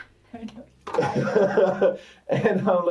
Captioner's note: laughs